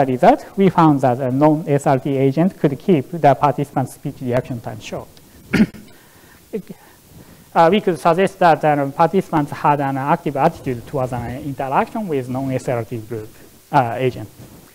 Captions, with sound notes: The result, we found that the no-SRT agent could keep the participants' speech reaction times short. (coughs) We could suggest that the participants had an active attitude towards interaction with no-SRT agent.